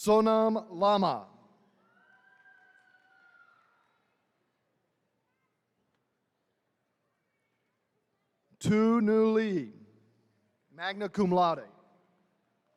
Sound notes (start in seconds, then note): 1.7 attendees cheering